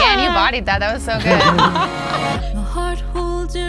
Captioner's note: laughs